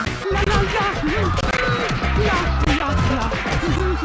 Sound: Mario humming

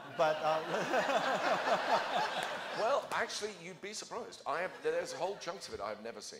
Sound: laughter

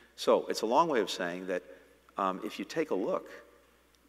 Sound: none

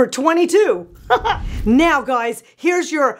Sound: laughs

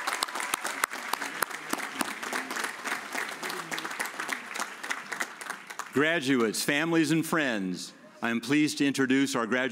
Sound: cheers and applause

